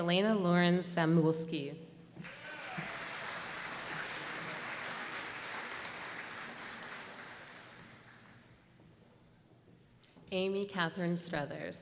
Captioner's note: applause